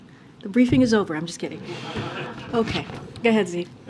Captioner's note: laughter